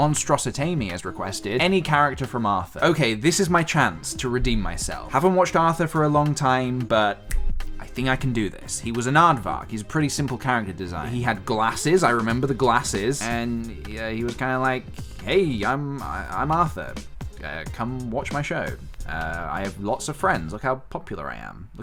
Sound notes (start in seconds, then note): 7.2 snap